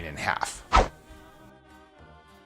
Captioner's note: swooshing; moves into slow music